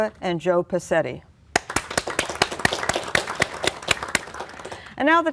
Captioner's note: applause